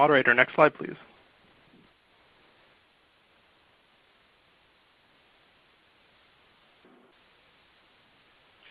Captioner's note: silence